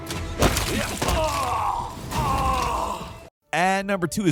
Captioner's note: person groaning